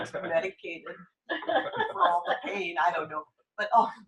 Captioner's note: laughter